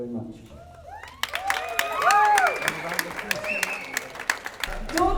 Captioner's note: cheers and applause